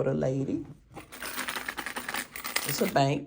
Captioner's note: coins jingling